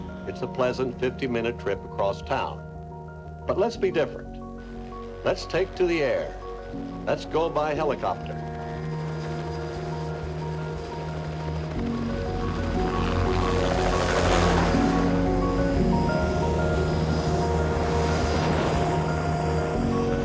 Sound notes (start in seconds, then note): 11.1 gentle orchestral music continues; 16.6 helicopter whirring